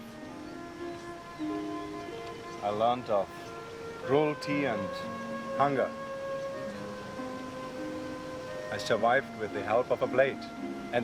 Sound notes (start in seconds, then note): none